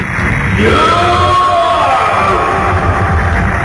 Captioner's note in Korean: 엔진대왕의 기합 소리